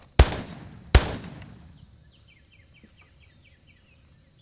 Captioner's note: gun firing